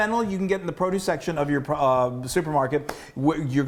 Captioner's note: claps hands